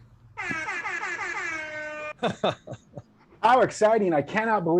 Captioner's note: airhorn blaring; laughing